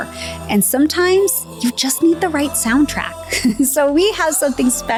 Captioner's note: laughs